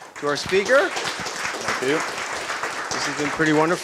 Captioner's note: applause